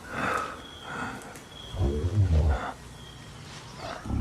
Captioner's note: person breathing; animal growling